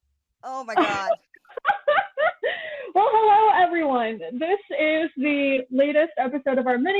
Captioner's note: wretched cry-laughing